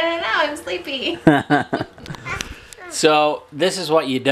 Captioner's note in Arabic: يضحك